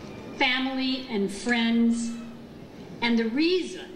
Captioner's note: none